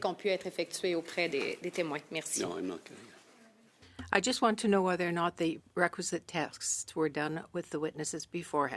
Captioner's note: speaking French